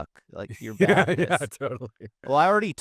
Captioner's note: laughing